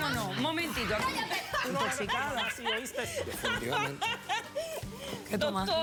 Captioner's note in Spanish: risotada